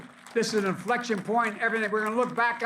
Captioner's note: applause